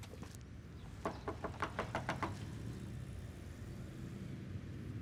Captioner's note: loud knocking